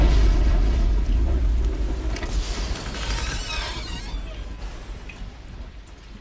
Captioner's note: thunder & lightning